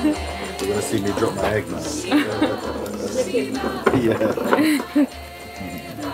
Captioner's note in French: rires